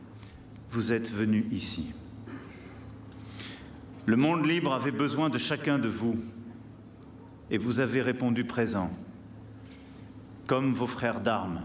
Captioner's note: speaking french